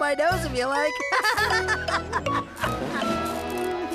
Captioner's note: laughter